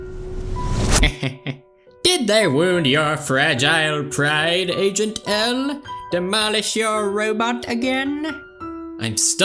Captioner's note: chuckles